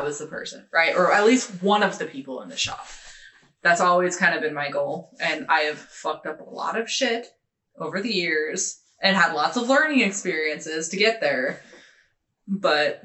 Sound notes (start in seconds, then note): none